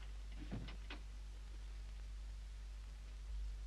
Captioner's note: door closes